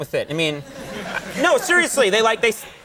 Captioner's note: audience laughing